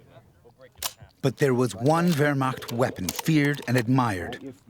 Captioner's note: voiceover